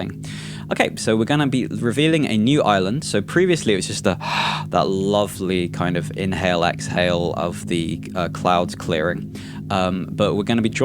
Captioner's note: inhales